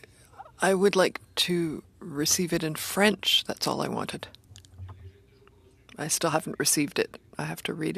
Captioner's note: speaking French